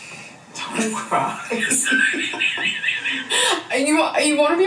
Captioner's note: laughs